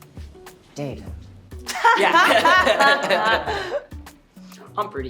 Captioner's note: group laughing